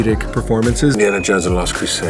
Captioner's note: bell dings